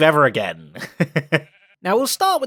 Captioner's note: laughs